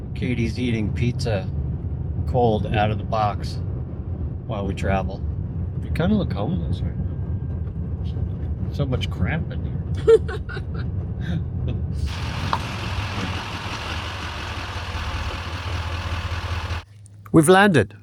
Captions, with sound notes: Katie's eating pizza cold out of the box while we travel. You kind of look homeless right now. So much cramping. (laughing) We've landed.